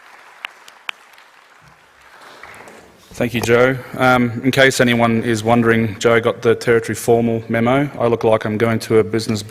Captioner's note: applause